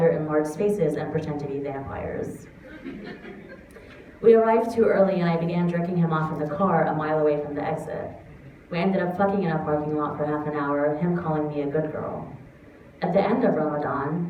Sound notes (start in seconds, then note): 2.6 laughter